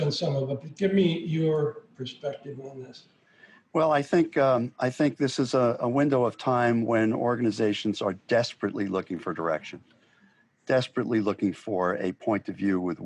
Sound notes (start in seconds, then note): none